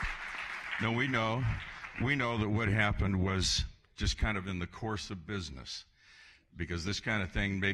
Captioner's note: applause